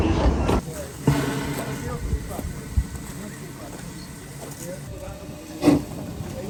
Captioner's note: engine sounds; train chugging